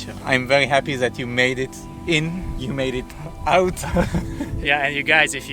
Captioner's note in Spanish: risas